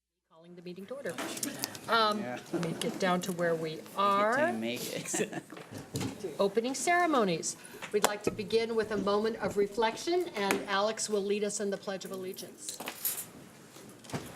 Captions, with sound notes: Calling the meeting to order. Let me get down to where we are. (group chatter) Opening ceremonies. We'd like to begin with a moment of reflection. And Alex will lead us in the Pledge of Allegiance.